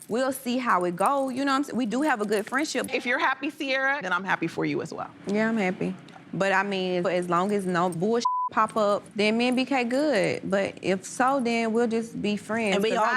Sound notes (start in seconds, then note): 8.2 beep